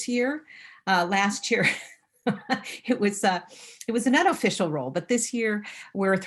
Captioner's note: chuckling